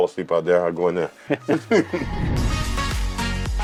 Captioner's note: laughing; upbeat music